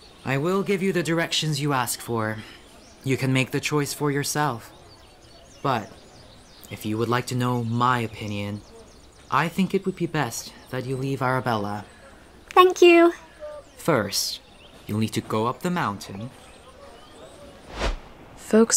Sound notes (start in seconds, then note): 17.6 transitional whoosh